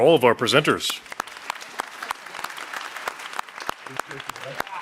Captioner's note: audience applauding